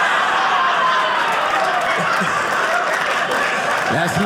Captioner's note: audience laughing